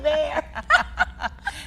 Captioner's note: laughing